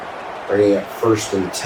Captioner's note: crowd Noises